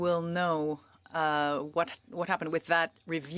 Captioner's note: speaking French